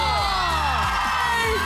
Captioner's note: squealing, cheering